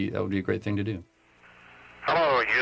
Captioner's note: radio transmission